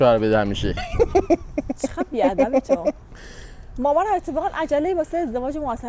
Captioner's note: laughs